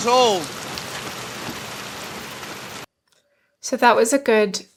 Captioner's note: rain falling